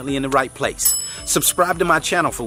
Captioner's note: pinging